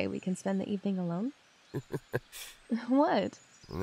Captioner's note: amused chuckle